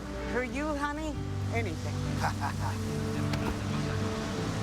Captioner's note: laughs